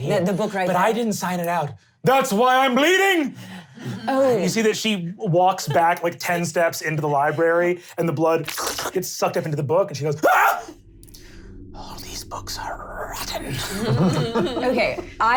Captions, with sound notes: - This is what I'm holding right here. - Yeah, the book right there-- - But I didn't sign it out, that's why I'm bleeding! - Oh. - You see that she walks back like ten steps into the library and the blood gets (slurping) sucked up into the book and she goes (screaming) oh these books are rotten.